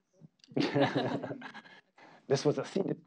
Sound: audience laughing

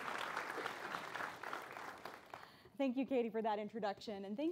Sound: applause

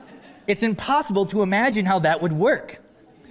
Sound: laughter

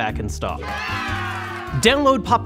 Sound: people cheering

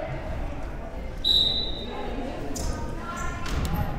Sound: whistle

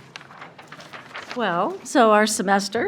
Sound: papers rustle

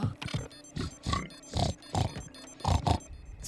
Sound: snorting

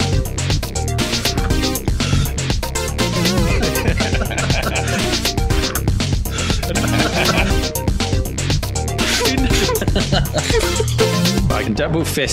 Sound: intermittent laughing

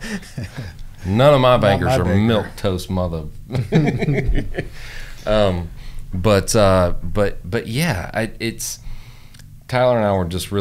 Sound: laughter

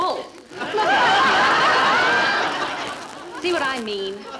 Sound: audience laughing

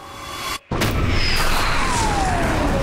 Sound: explosion

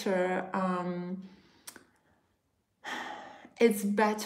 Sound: sighs

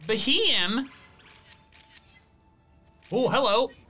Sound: photo snapping

